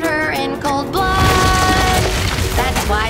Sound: rumbling

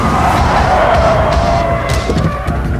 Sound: brakes squeak

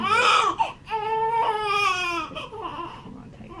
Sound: baby crying

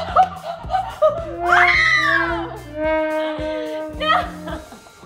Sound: screaming

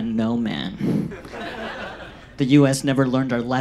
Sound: audience laughs

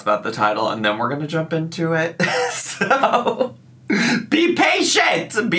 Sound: laughs

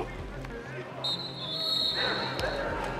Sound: whistle

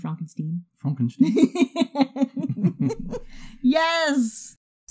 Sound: both laugh

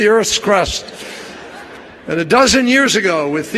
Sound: laughter

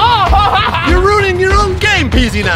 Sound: laughs loudly

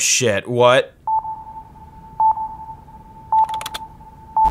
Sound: sonar beeping; typing

